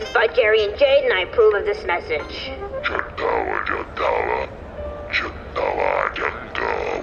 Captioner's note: playback start sound